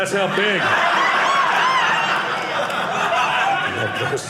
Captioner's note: audience laughing